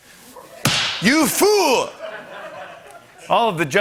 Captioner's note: slap